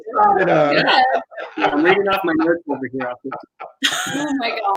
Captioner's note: chuckling